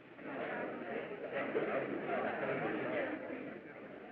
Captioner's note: chattering